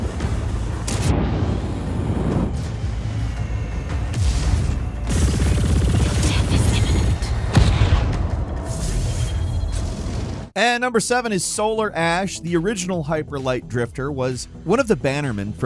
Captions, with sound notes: (tense music) (ship firing lasers) And number seven is "Solar Ash," the original hyperlight drifter was one of the bannermen